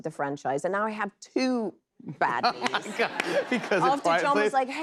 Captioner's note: laughter